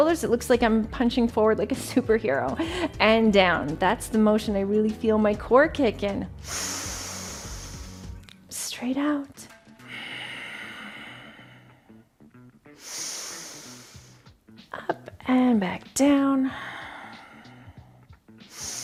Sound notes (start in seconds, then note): 6.4 inhales; 9.7 breathes deeply; 10.4 upbeat funk music